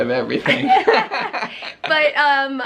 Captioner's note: both chuckling